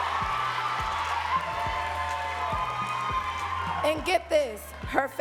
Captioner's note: audience cheering and clapping